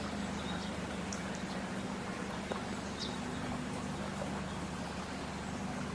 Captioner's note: water burbling; wind blowing